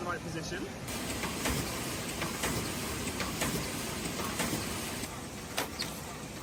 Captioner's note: machine whirs and clicks